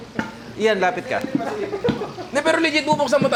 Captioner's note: laughs